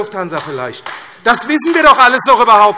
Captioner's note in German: Beifall AfD